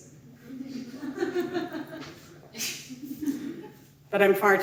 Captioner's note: audience laughing